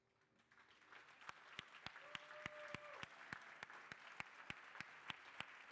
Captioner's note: crowd cheering and applauding